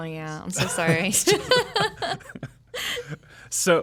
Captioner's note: laughing